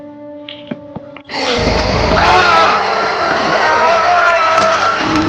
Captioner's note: creature roaring; dramatic music